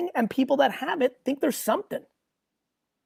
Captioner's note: none